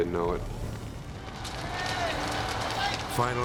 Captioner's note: flames whipping